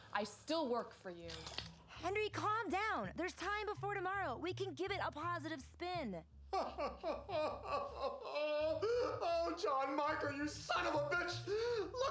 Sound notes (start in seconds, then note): 6.5 sobbing